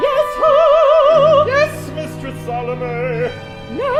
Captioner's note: client losing falsetto